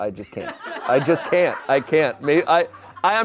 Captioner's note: audience laughing